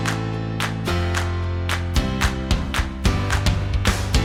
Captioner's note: hands clapping; upbeat music